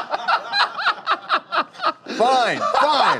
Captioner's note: laughter